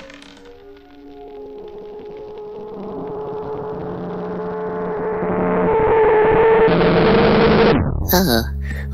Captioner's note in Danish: Lyd på radioen